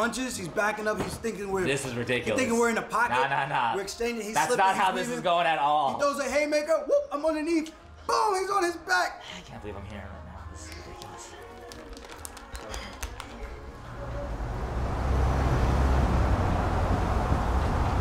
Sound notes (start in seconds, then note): 13.7 traffic